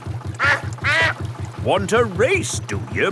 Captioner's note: quacks